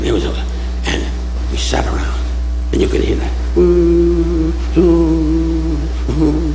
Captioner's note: humming